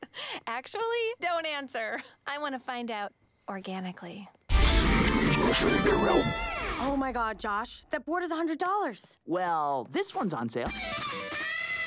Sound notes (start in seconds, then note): 4.3 distorted low speech; 10.6 guitar riff